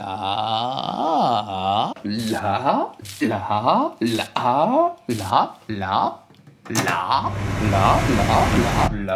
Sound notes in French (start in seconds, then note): 2.9 bruit de brûlé